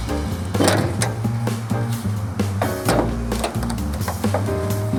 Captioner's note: car hood clanking